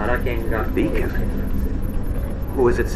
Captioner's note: voiceover